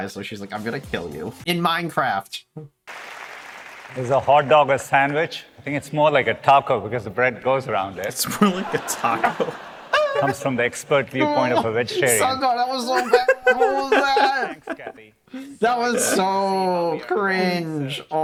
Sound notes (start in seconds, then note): 2.8 applause; 8.4 audience laughs, cringes